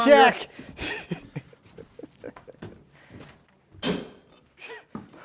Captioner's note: laughing